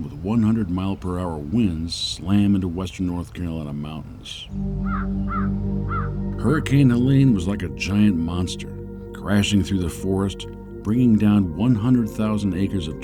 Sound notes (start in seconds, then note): 4.8 bird cawing